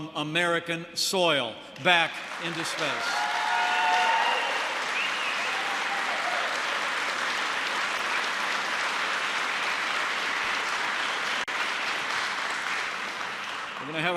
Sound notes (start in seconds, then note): 6.1 applause